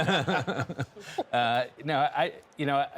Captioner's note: laughter